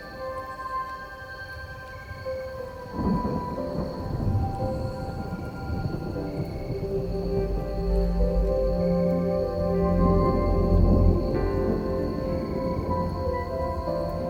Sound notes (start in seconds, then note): 3.0 thunder rumbling; 7.8 gentle music; 10.8 thunder rumbling; 14.1 gentle music